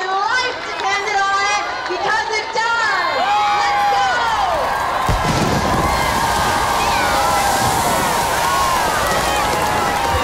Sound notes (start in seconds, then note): 3.7 cheering